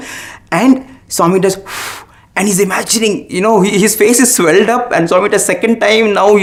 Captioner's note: blows